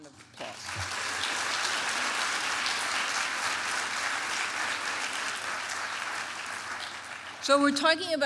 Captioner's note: applause